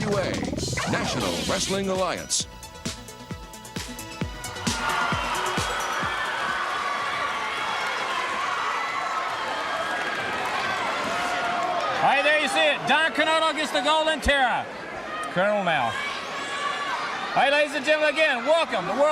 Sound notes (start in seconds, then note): 5.1 crowd cheering